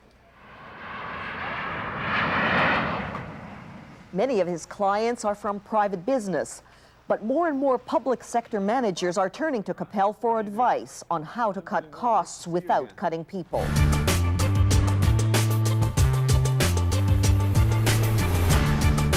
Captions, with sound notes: [airplane engines roar] Many of his clients are from private business but more and more public sector managers are turning to Capel for advice on how to cut costs without cutting people.